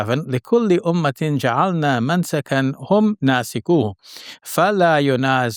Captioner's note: man speaking in foreign language